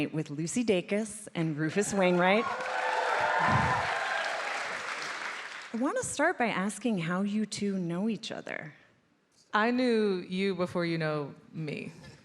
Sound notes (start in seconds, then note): 1.6 audience applauding; 1.7 audience cheering